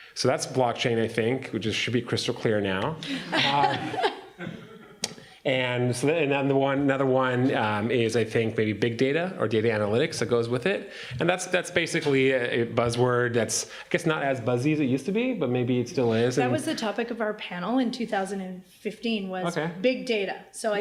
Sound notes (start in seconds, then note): 3.0 laughter